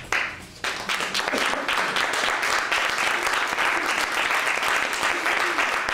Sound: applause

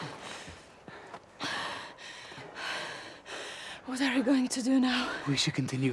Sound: panting

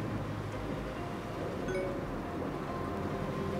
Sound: notification sound

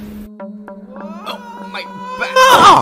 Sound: screaming

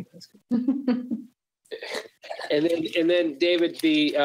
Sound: laughs

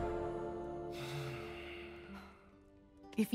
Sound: Magnifico sighs

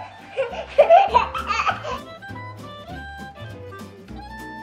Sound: laughing

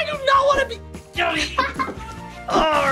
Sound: Adley laughing

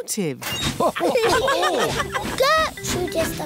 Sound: laughter

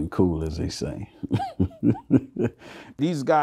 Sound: chuckles

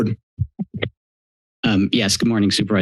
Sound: mic thump

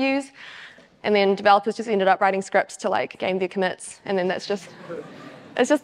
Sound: audience chuckles

